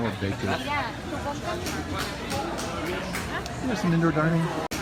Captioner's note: customer chatter